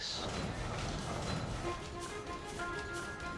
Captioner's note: machine clattering; dramatic music